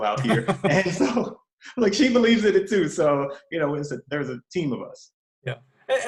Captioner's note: laughs